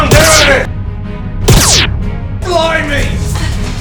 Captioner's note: laser noises